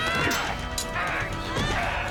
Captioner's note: metal clanging